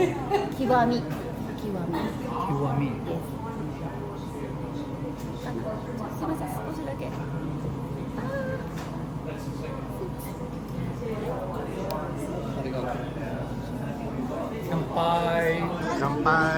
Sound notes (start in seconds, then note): 2.8 people talking